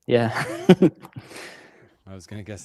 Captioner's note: laughs